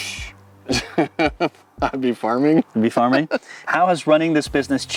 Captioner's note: chuckles